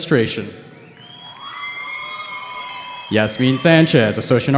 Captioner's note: cheering